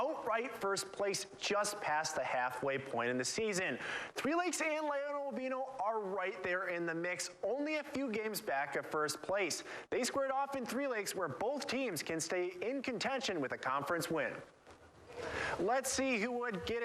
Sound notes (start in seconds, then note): 3.8 goddesses gasp